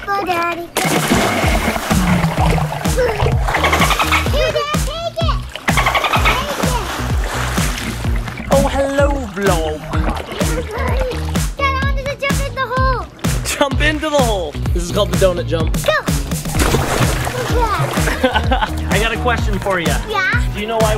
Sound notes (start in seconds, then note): 1.5 splash; 4.4 dolphin sounds; 16.4 splash; 18.0 laughter